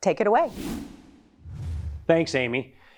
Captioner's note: air whooshes